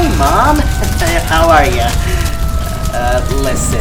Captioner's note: nervous chuckles